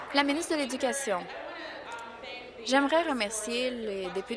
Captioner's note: applause